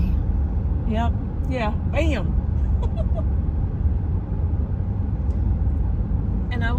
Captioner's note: giggle